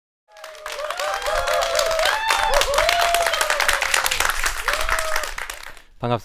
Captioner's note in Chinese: 鼓掌